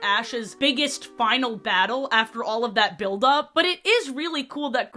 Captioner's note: spongebob disappointed sfx, "steel sting"